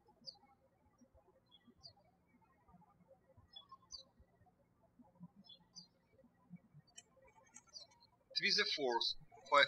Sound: birds chirping

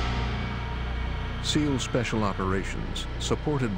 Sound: ominous instrumental music; voiceover

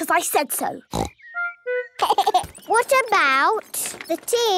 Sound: giggling

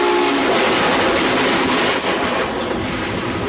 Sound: sound of wheels on the tracks

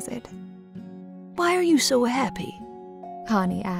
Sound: voiceover

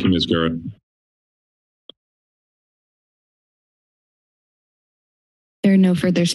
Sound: silence

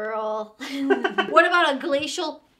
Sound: both laughing

